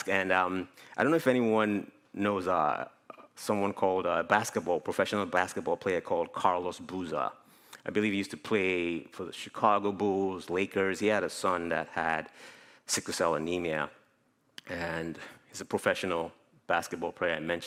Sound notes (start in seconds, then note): none